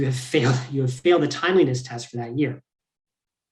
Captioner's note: laughs